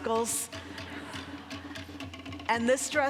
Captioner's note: audience laughing